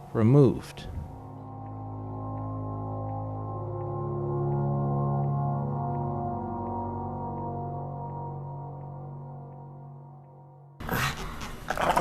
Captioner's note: grrr grrr woof